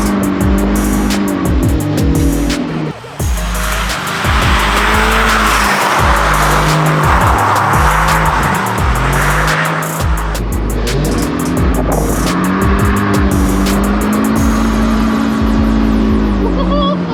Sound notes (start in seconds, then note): 3.0 engine revving; 3.0 upbeat music